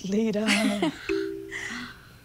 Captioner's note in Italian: Ridacchiano